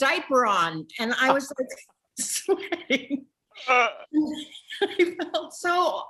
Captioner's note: Jennifer laughs